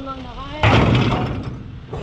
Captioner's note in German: kraaach